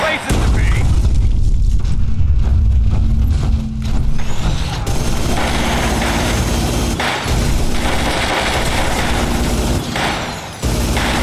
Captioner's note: gunfire